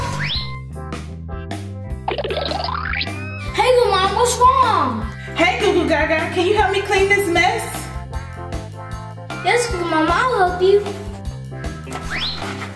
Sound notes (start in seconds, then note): 0.2 quirky music; 2.0 audio boings; 7.9 playful music; 11.9 box whistles